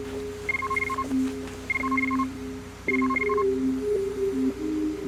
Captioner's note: phone beeping